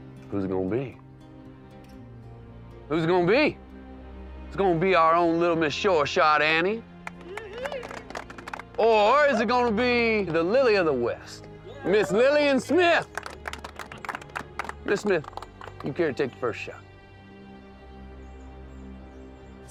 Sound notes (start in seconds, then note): 7.0 cheering, applause; 11.8 applause